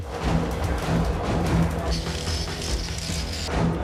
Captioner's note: upbeat music; tools whirring; upbeat music